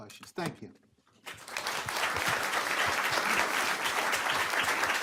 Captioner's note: group applauds